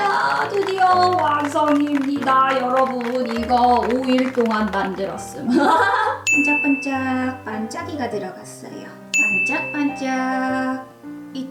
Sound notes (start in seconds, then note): 1.7 self applause